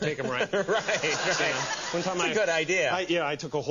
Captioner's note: laugh